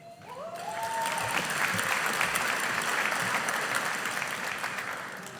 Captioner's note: audience applauding